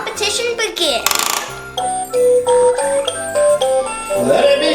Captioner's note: obscure beeps